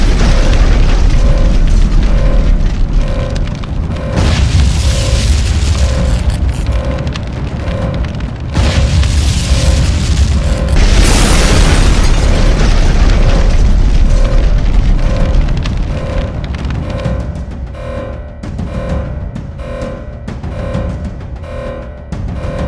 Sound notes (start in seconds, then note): 0.2 alarm blaring; 4.1 flames whooshing; 8.5 explosions booming; 17.1 intense music